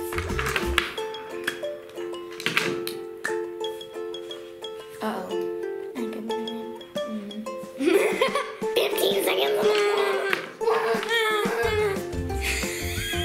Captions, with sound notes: (upbeat music) Uh oh. (laughter) - 15 seconds on the clock!